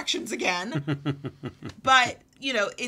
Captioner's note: laughs